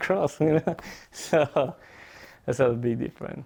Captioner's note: chuckles